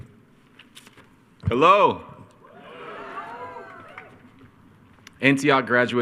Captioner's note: attendees cheering